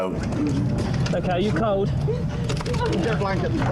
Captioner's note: victim sobbing